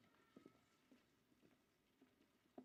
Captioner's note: none